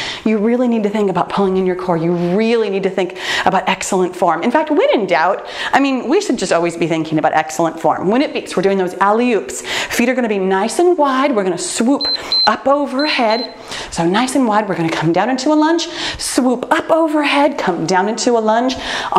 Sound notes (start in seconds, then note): 12.8 timer beeps